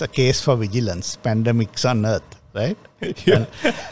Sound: laughs

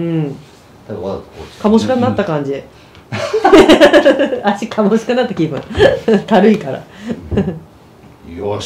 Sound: laughs

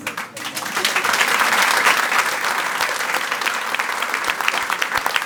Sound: audience applauding

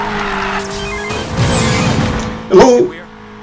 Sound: phone rings

